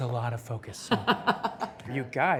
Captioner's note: laughs